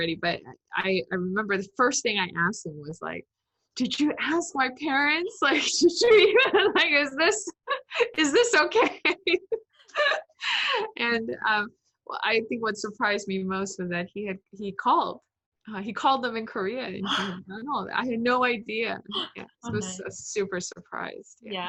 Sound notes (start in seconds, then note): 10.0 laughs